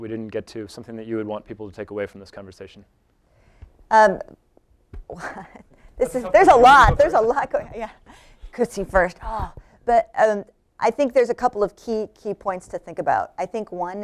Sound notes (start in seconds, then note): 5.1 chuckles